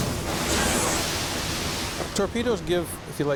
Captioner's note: torpedo hisses